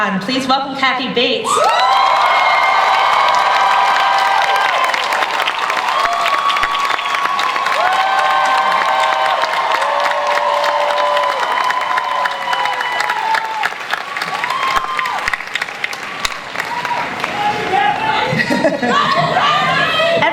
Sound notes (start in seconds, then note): 3.1 audience cheering and applause